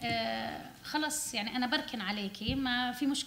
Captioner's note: speaking arabic